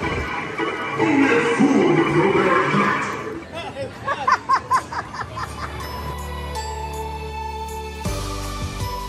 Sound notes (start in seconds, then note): 3.6 narrator laughs; 5.4 gentle music